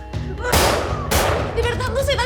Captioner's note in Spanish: Disparos